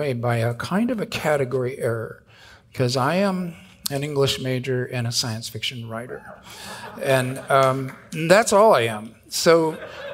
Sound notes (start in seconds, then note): 7.0 audience cheering